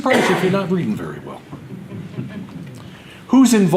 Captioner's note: audience laughter